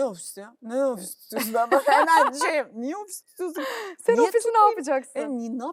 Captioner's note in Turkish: kahkaha